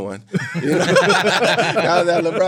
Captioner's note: all laughing